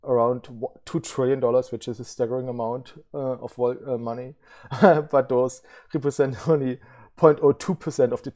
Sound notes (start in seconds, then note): 4.7 laughs